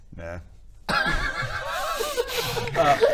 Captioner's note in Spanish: risita